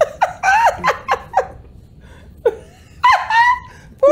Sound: laughing

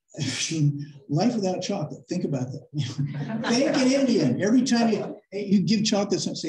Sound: laughter

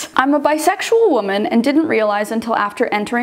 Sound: none

